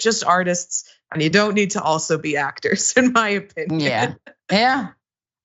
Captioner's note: laugh